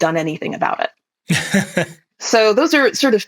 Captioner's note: laughs